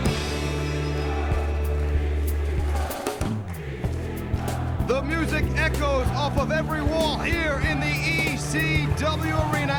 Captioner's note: crowd cheering